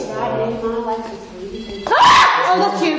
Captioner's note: machine beeps; screams